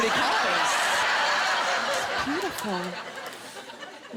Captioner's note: laughter